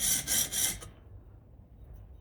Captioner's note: drill whirring